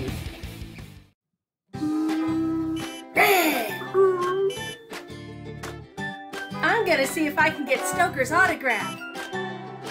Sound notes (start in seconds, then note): 0.0 badass rock music; 1.7 cute music; 2.0 vrooming noises, braking noises